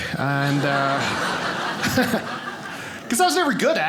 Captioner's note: audience laughing